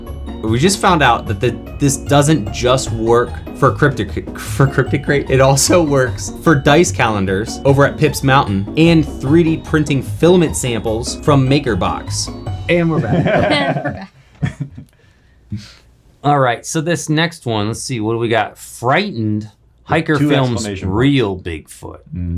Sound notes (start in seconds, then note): 12.9 laughing